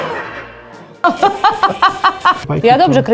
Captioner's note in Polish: śmiech